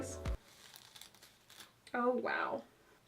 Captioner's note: scraping and ripping